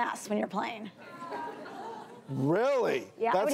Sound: audience laughs

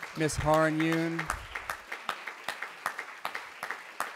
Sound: applause

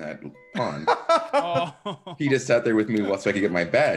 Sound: laugh

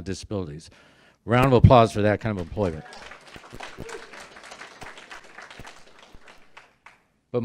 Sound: clapping

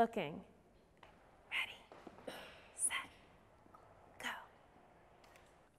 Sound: whispering

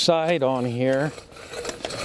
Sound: sound of reamer scraping

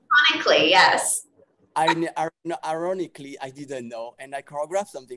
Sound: chuckles

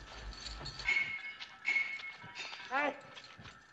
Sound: clanking

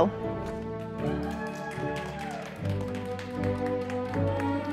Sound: audience applauding

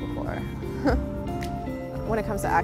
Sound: laughs

